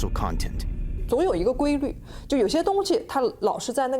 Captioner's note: speaking Chinese